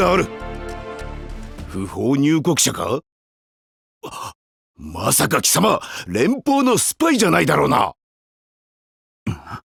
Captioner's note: gasp